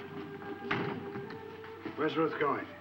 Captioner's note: door latching